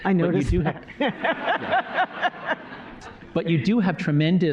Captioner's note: laughter